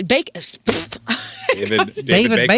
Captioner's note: laughing